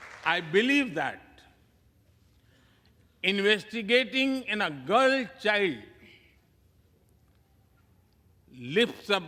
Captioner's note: applause